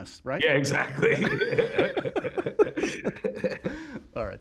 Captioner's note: laughter